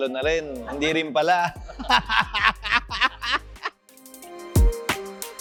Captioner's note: laughs